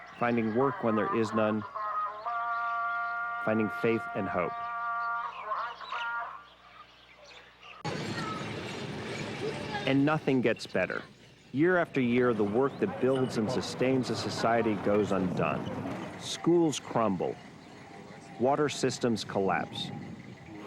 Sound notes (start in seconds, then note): 5.4 birds chirping; 5.4 chanting music; 7.8 vehicle humming